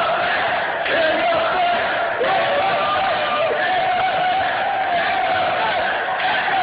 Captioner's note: crowd chants “end the fed!” “end the fed!”